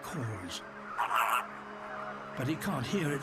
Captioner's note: croaks